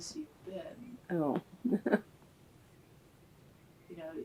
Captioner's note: laughs